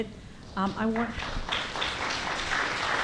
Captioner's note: applause